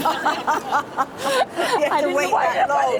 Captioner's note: all laugh